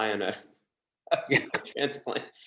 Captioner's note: laughs